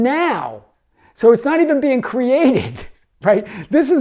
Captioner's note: laughs